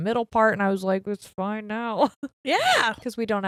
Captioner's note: chuckles